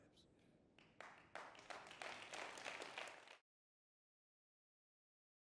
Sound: audience clapping

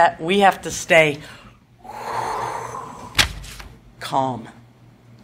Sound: dramatic sigh

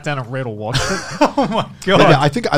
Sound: laughing

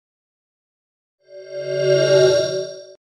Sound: swoosh

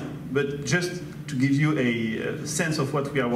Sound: none

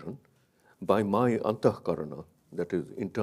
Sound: speaks in a foreign language

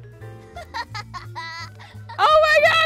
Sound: child laughter

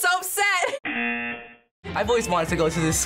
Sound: buzzer

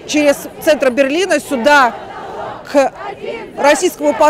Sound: chanting

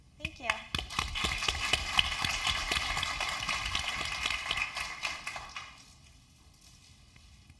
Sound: applause

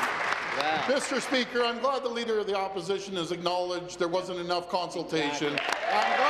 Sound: applause

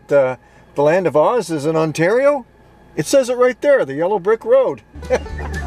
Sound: chuckles

